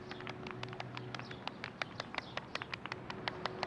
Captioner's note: light applause